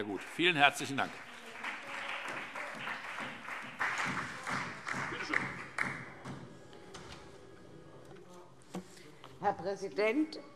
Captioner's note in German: Beifall